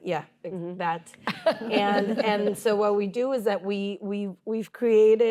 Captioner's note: laughter